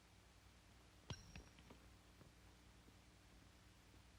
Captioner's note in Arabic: صوت العملة المعدنية وهي تصطدم بالأرض